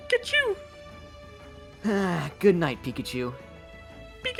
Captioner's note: sighs